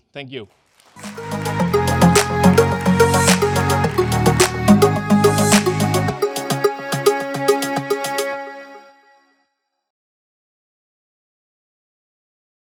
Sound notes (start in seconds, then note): 0.7 audience applause; 1.0 upbeat music